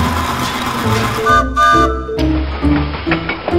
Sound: train whistle; train chugs

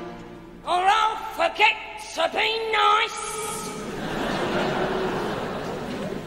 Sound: audience laugh

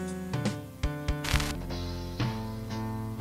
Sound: static

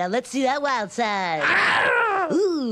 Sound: animal noise

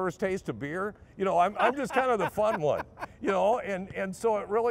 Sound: laughing

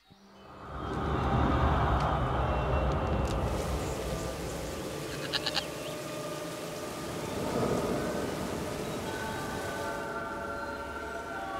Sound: forest sounds

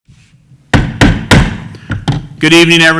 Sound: hitting gavel

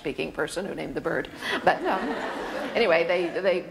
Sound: audience laughter

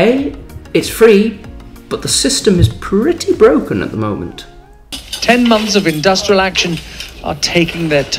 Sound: strikes

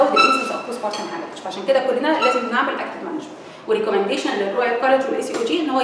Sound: pulse

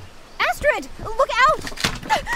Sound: startled gasp

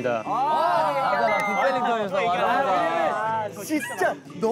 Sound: mouth watering

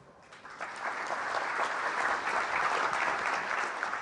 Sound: applause

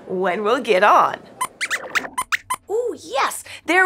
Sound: squeaks squeaks

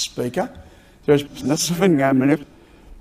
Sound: reversed talking

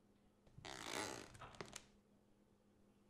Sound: floorboards creaking

